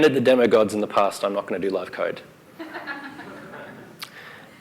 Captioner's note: laughter